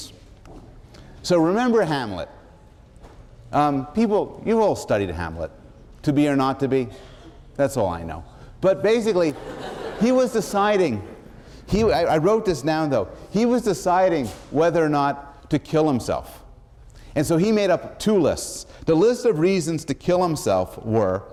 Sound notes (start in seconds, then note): 9.2 laughter